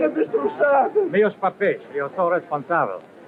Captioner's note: speaking portuguese